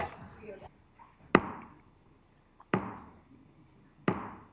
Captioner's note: gavel thudding